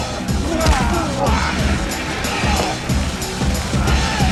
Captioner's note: Boris grunting